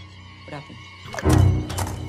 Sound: click

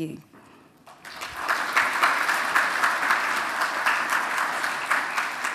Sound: audience applauds

